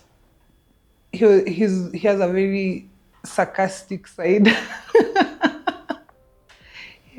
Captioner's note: laughs